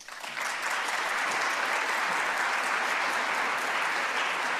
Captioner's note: applause